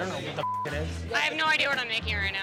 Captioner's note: beep